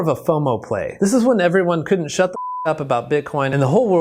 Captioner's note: beep